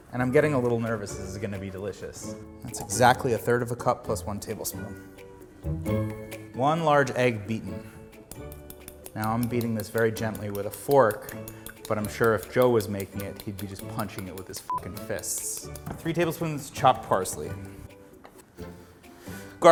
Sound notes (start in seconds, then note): 9.1 fork tapping; 14.7 beep